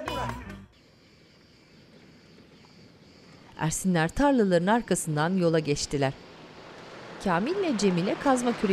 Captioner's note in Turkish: Kuş sesleri